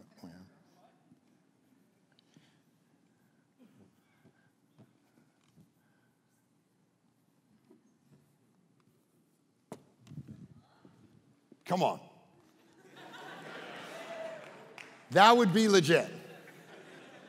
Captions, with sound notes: Come on. (congregation laughing) That would be legit.